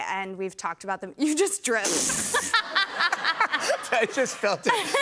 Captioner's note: laughter